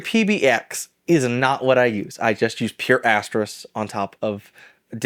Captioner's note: none